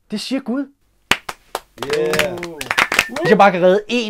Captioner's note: clap clap